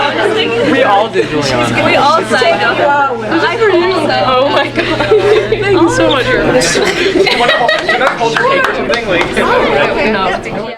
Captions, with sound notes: - Oh my gosh, thank you so much. (laughing) (hands clapping)